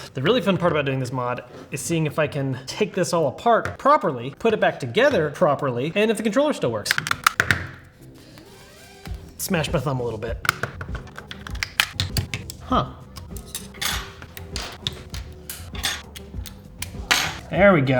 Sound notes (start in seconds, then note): 6.8 controller parts snapping together; 10.4 controller parts snapping together